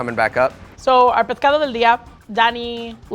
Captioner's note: speaking Spanish